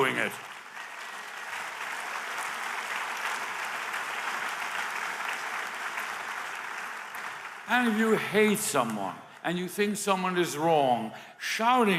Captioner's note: applause